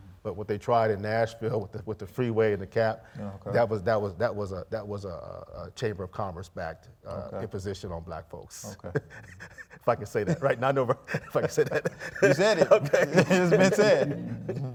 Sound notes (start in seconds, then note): 8.6 chuckling